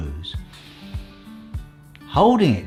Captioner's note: inhaling